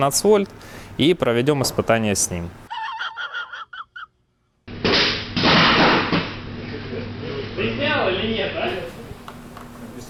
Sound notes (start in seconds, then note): 4.8 drop sound; 4.8 explosion sound